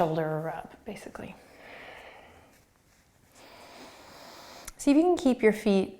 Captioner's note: breathing